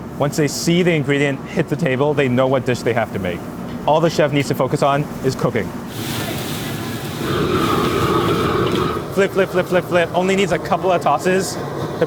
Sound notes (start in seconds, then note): 5.8 food sizzling; 5.8 fire blazing